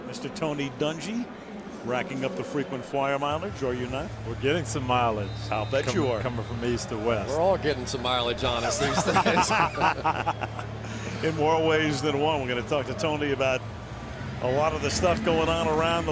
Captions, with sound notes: in America," Mr. Tony Dungy. Racking up the frequent flyer mileage, are you not? We're getting some mileage-- I'll bet you are. --coming from East to West. We're all getting some mileage on us these days. [laughter] In more ways than one. We're going to talk to Tony about a lot of the stuff going